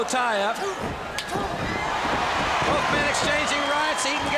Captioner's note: crowd cheering